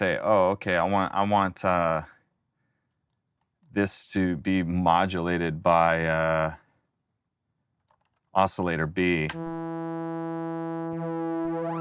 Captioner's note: sliding tone